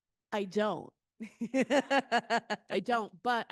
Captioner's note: laughing